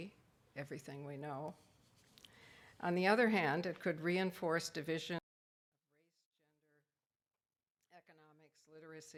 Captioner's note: audio cuts out